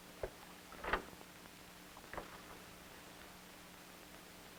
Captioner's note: door creaking